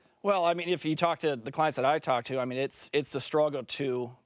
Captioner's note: French